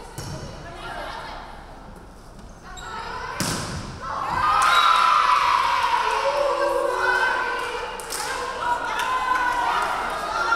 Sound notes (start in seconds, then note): 4.3 crowd cheering; 4.6 referee whistling